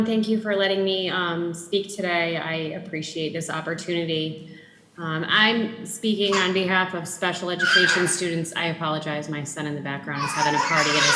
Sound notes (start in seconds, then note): 7.6 child shrieking; 10.2 child babbling